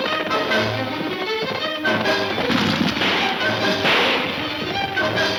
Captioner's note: gunfire pops